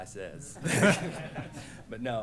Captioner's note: laughter